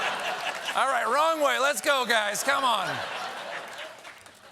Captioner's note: laughter